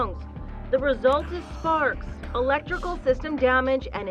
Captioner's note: whispers